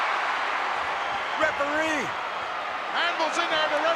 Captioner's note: crowd roaring